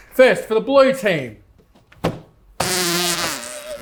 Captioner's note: bzzzz